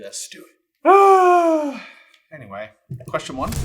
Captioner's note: long put-upon sigh